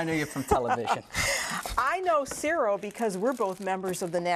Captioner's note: laughter